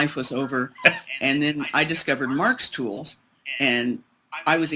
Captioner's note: laughs